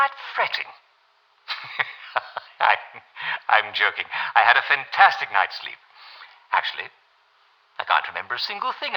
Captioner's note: laughs